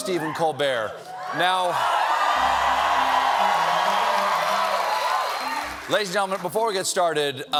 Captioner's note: cheers and applause